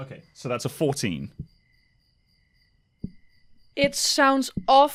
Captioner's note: tapping continues